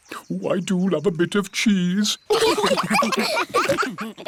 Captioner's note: laughter